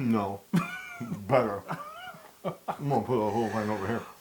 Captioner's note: laugh